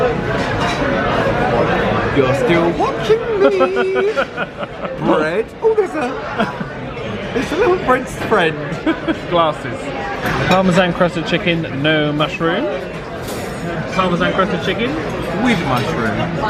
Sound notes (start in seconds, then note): 3.4 chuckles